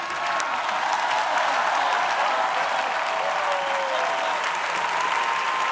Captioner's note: audience clapping